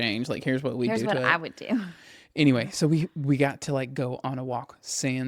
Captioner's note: laughs